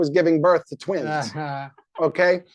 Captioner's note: laugh